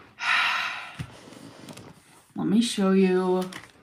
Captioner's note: sighs